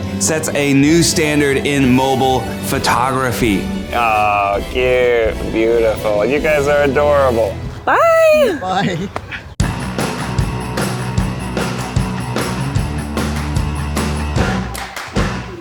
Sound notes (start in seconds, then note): 8.4 chuckles; 9.6 upbeat music